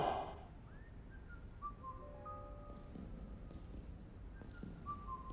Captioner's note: Henderson whistling